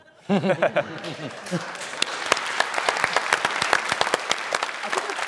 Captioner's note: laughter and applause